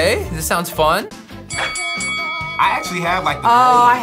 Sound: bell rings

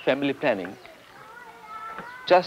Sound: children's voices

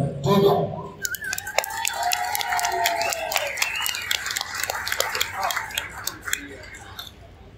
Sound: cheers and applause from the crowd

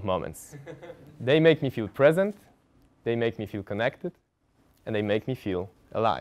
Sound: laugh

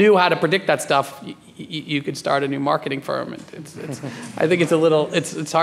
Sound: laughing

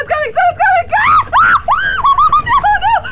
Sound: screams

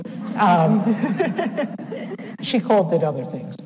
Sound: audience laughs

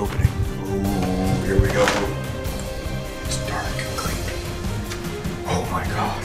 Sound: whispers

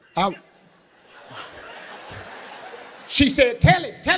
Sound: audience laughing

